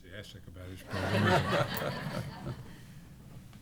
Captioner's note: laughter